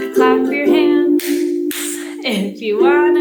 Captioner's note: hands clapping